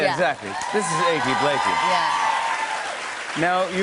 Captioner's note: cheers and applause